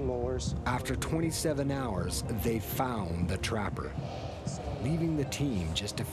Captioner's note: voiceover